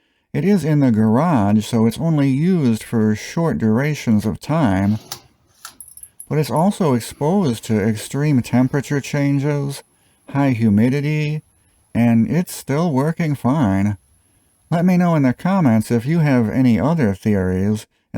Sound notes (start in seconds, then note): 5.2 fluorescent light sound